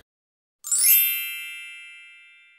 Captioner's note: bell Chime